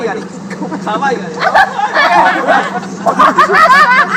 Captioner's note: laughter